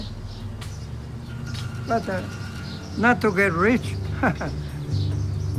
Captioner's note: laughs